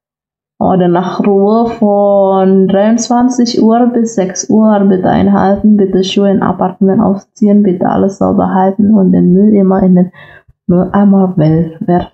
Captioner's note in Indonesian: membaca dalam bahasa Jerman